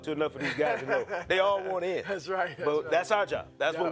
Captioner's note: laughing